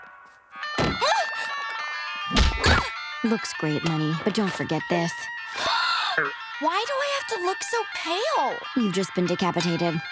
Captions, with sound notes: [groaning] Looks great, Leni, but don't forget this. [gasping] Why do I have to look so pale? You've just been decapitated.